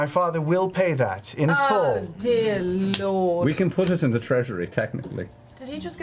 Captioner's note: none